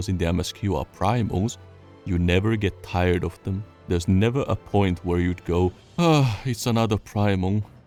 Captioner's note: sigh